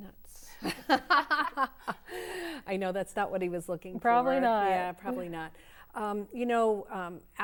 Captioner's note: laughter�